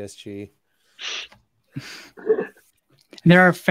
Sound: all laugh

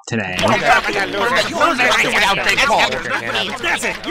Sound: arguing

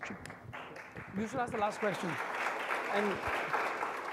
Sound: audience applauding

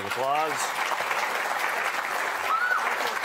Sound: audience applauding

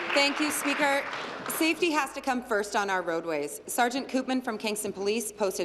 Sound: applause

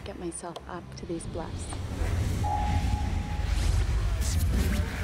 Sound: voiceover

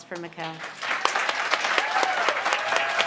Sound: applause

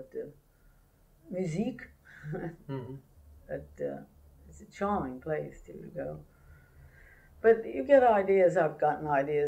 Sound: laughs

